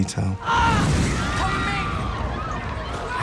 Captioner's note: students screaming